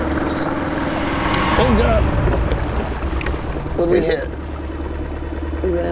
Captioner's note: equipment scraping